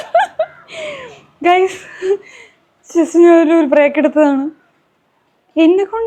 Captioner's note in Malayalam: പൊട്ടിച്ചിരി